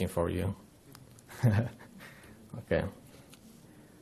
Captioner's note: chuckling